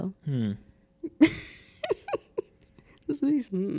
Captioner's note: laughing